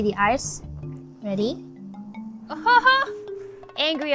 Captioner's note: laughs